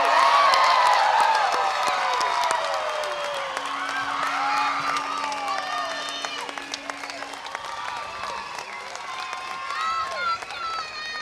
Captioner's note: applause